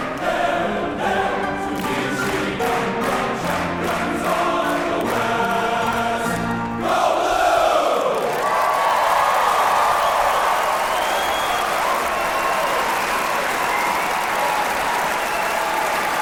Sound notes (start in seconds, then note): 7.5 audience applauding and cheering